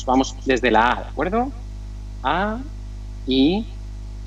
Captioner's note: spelling vocals